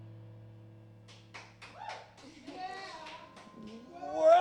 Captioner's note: applause and cheering